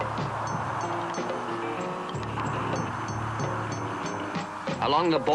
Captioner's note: wind howling continues